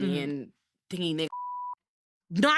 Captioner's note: beep